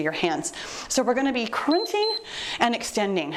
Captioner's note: timer beeps